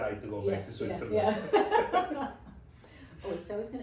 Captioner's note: laughs